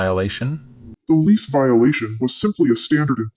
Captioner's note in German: verzerrt